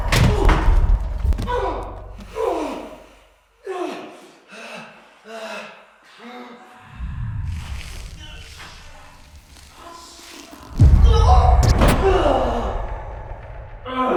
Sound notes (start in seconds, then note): 0.0 Jacob groans; 0.0 ominous music; 0.0 body thuds; 0.3 Jacob groaning; 3.8 Jacob panting; 3.9 heavy breathing; 7.1 ominous music; 8.5 Jacob groaning; 10.7 dramatic music; 11.1 Jacob groans